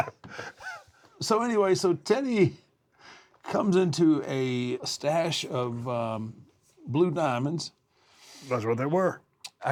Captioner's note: laugh